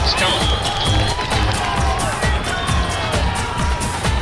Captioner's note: audience cheering and applauding